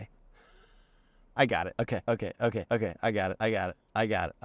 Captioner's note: sighs